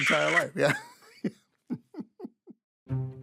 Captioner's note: both laugh